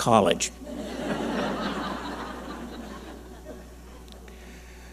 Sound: audience laughing

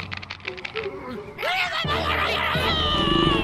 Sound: angry chatter; growling

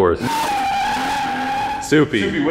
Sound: tires screeching

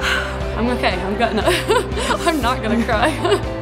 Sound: sighing

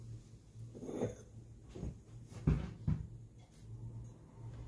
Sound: glass scrapes

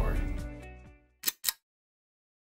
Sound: click

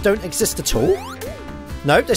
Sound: boop!

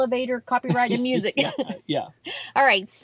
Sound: both chuckle

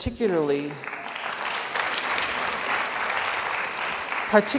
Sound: audience applauds

